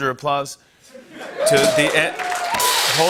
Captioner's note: cheers and applause